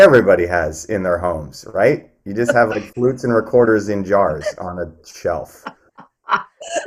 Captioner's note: laughs